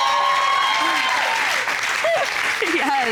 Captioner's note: audience cheering; chuckles; audience applauding